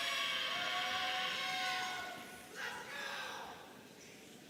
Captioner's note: audience cheering